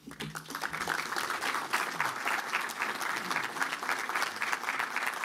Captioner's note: applause